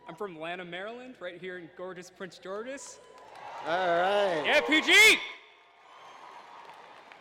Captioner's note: applause